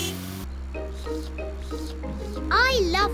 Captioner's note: slurping